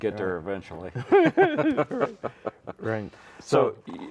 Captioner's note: laughing